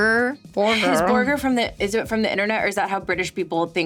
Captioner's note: sighing